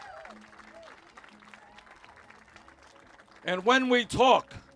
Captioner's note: cheers